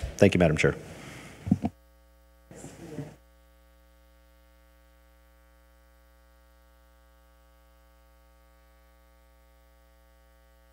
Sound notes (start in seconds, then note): 2.8 speaking faintly